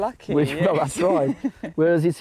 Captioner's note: laughs